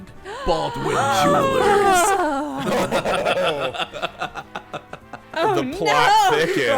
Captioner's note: everyone gasping and laughing